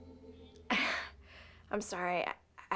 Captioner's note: embarrassed chucekl